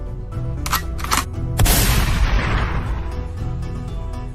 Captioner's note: gun cocks and fires